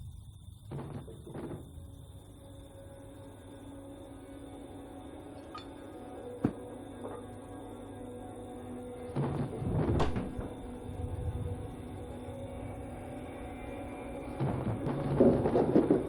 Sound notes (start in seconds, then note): 0.9 distant rummaging; 8.9 distant rummaging; 13.0 horror music